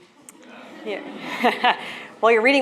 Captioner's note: audience laughs